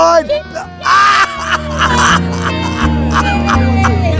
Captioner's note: laughs